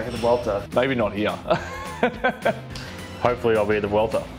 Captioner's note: laughing